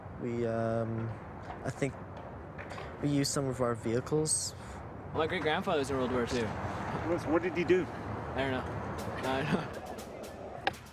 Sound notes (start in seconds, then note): 6.7 voiceover; 9.0 marching orchestral music